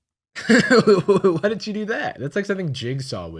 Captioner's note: laughs